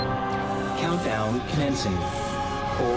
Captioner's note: computer voice